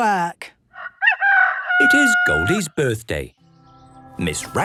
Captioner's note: rooster crowing